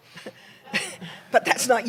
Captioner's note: laughter